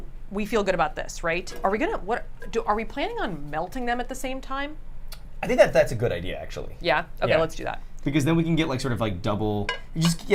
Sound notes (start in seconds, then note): none